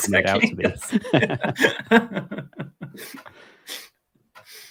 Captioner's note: both laugh